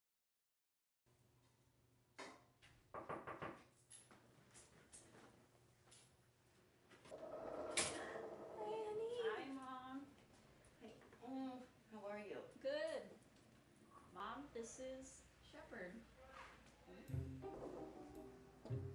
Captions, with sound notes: [KNOCKING AT DOOR] Hi honey. Hi mom. How are you? Good. Mom, this is Sheppard.